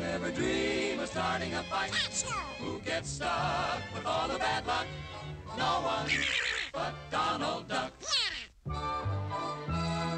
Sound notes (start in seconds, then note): 5.8 donald quacking angrily